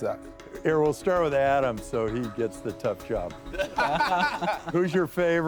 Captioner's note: laughing